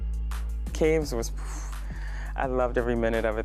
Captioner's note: phew